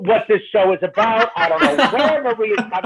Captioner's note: laughing